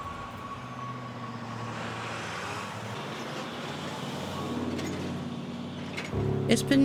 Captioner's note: traffic humming